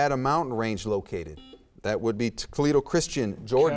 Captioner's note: buzzer beeps